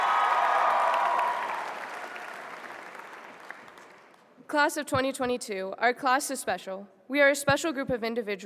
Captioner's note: applause